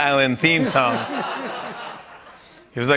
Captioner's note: laughter